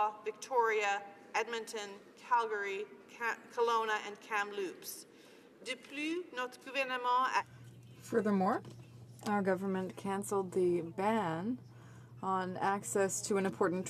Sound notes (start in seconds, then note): 12.1 speaking in french